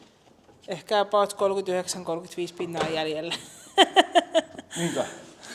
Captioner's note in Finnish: naurua